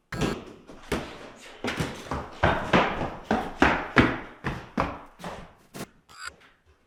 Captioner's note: feet stomping; ball thudding; static crackling